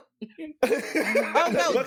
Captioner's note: laughing